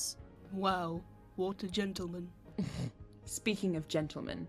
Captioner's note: Regulus snorts